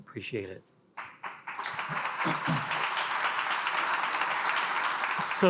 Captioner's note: attendees applauding